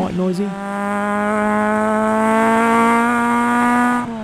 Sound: car engine revving

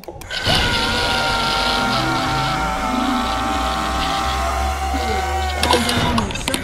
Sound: Lance Sterling screaming

